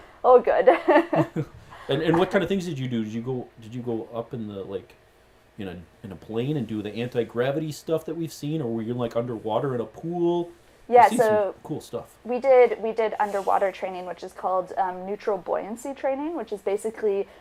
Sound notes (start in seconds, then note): 0.7 laugh